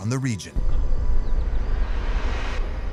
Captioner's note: deep rumble